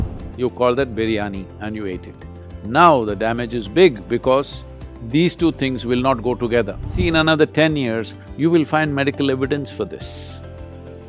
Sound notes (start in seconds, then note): none